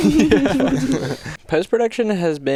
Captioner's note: attendees laugh